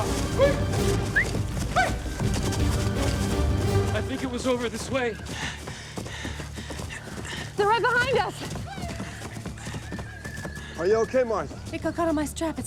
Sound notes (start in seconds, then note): 1.0 whistles